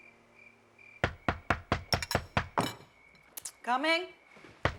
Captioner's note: knocking